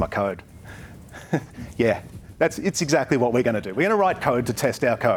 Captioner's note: chuckles